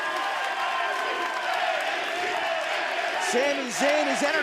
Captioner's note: fans chanting